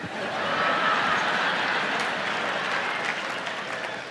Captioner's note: audience laughs; audience applauds